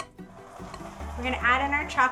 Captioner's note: mixer whirring